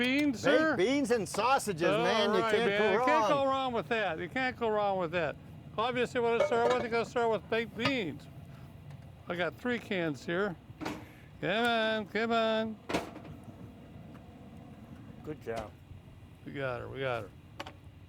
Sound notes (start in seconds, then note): 12.8 grill lid slams